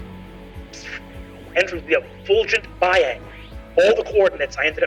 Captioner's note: mimics distortion